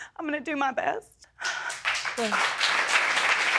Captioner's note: audience clapping